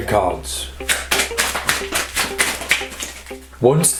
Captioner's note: loud card shuffling